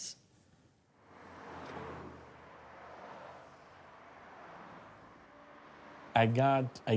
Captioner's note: cars passing